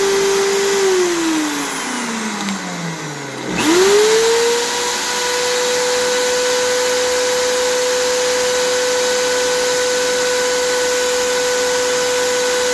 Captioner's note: grinding sound